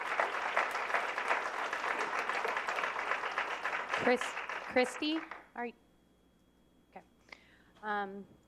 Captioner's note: applause